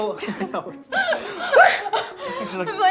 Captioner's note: both gasp